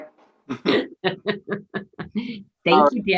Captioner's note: laughing